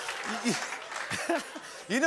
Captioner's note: laughs